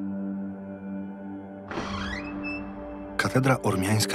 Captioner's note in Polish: skrzypiące drzwi, echo